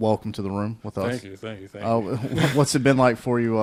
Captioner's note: chuckles